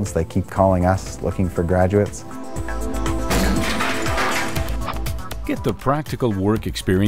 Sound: sound of concrete breaking

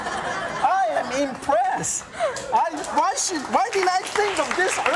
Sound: audience claps

